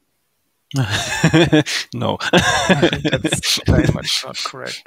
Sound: laughing

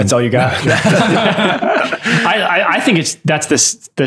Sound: laughter

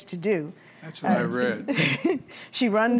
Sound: laughs

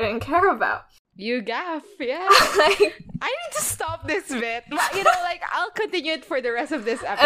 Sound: laughs

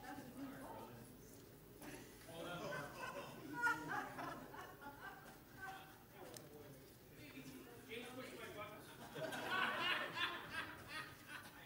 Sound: laughter

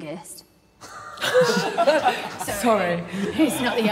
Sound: all laughing

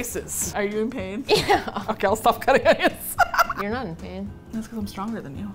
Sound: laughs

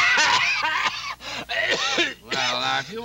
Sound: Homer coughing

